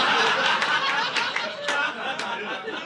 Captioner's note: audience laughing